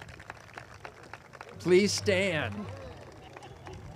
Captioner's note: audience claps